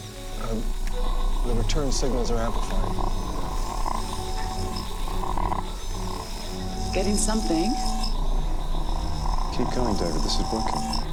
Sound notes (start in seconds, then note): 3.3 low crackling